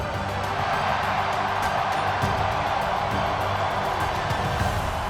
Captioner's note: crowd cheering and applauding